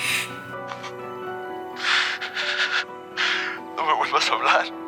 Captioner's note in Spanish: Sollozos